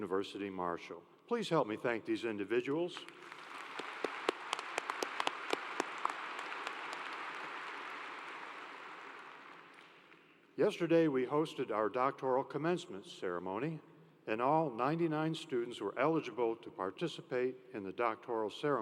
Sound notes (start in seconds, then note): 10.7 applause